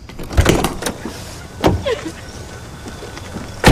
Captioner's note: Allyson sobbing